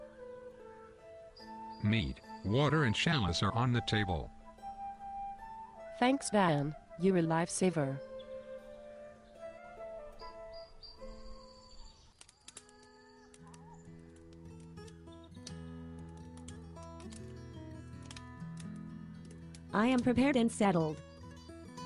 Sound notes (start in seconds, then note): 11.7 noise of rustling bushes